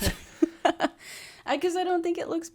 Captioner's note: laughs